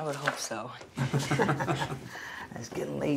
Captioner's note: laughs